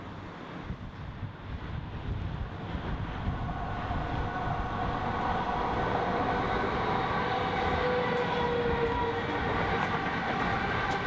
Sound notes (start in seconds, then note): 2.8 wind Howls Coldly; 8.0 train Passes Noisily In Background